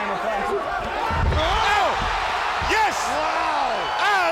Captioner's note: body thudding; crowd cheering